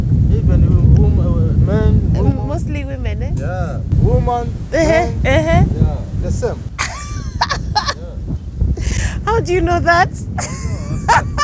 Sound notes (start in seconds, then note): 6.7 laughing; 10.3 laughing; 10.3 laughter